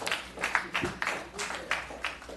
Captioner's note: applause